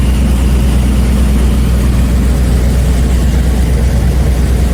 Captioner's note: generator rumbling